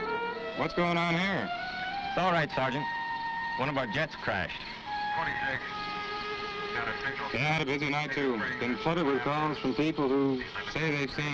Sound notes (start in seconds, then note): 5.5 chatter on police radio